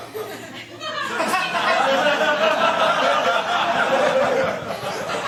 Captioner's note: laughter